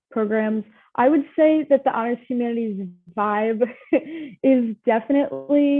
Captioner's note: chuckles